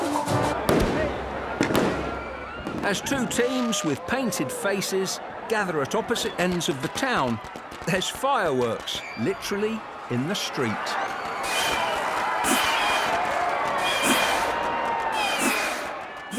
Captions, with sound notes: (fireworks pop) As two teams with painted faces gather at opposite ends of the town, there's fireworks literally in the street. (crowd cheers) (fireworks whistle)